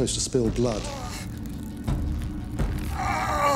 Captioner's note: ropes creaking; groans